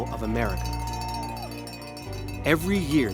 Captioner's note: cowbells ringing